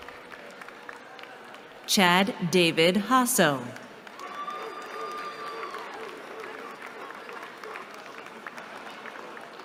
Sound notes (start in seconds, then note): 3.8 cheering